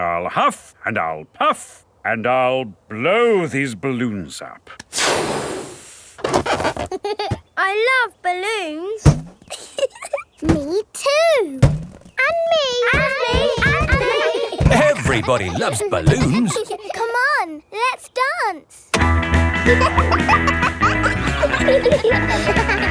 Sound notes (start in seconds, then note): 9.5 chuckles; 19.0 pop music playing; 19.4 kids laughing